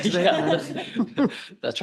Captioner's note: laughter